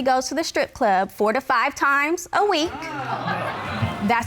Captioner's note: audience exclaims